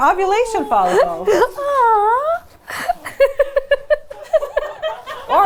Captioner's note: laughs